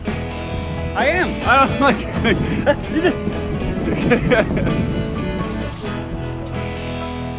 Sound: laugh

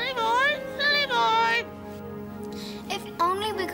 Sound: squawking

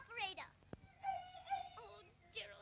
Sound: dog whines

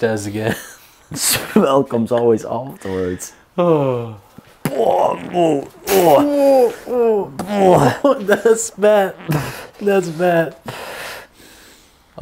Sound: retching

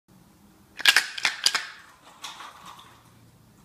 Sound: shaking the bottle of treats

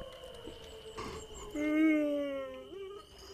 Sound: yawns

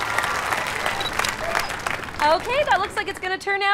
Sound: camera shutter

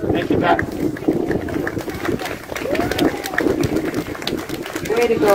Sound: applause

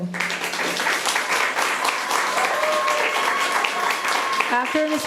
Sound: audience applauding

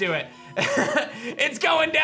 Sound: laughs

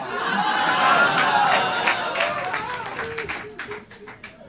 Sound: audience cheering

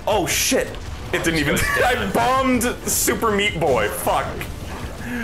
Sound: wheeze

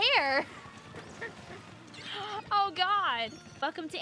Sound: laughing

